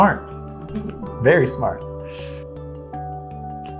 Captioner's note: laughter